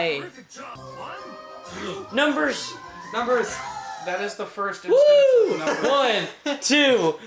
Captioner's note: gasp